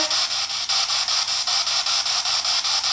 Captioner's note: static